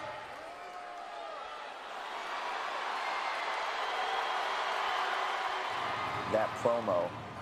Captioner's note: applause